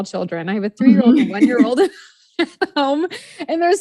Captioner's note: laughs